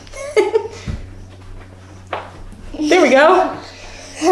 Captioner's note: laughing